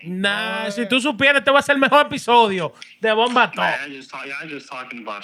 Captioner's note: non-english Speech